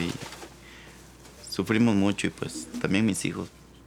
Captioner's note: speaking Spanish